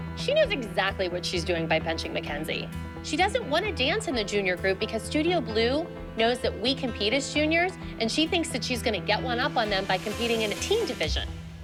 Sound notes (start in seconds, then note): none